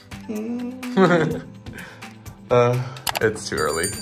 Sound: laughing

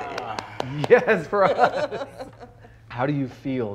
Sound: both laughing

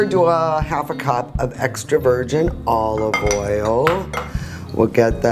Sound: clanking

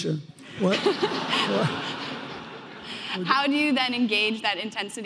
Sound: audience laughing

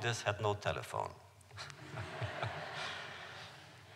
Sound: laughter

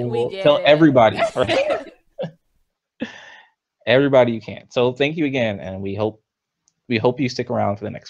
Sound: laughs

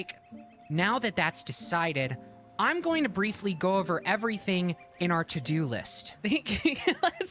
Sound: Big Joel Voice; laughing

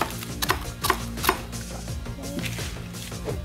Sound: knife cutting; soft upbeat electronic music

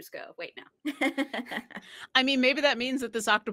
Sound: laughs

